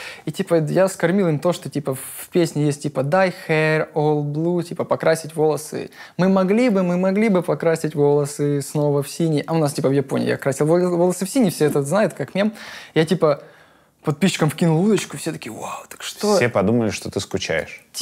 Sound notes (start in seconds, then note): 4.3 translates to Russian